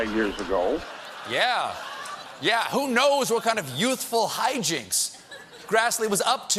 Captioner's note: laughter